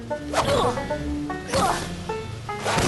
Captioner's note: grunts